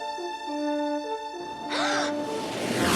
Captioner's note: gasps; screeches